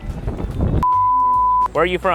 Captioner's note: beeping